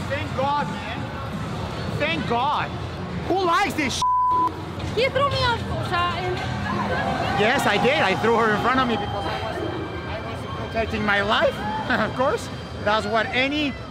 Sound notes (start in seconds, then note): none